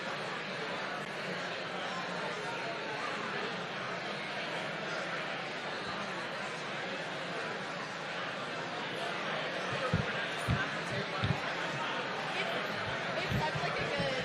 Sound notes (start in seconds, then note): 0.0 crowd noise